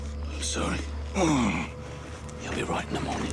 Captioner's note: M.M groans